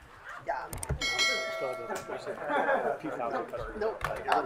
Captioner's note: bell ringing